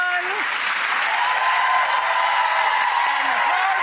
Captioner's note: audience cheering